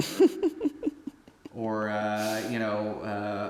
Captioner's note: Anubis giggling